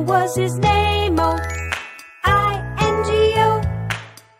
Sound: clap

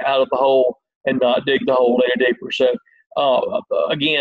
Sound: murmurs

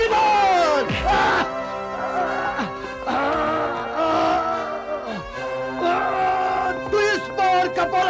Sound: grunts

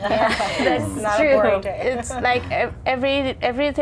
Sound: laughter

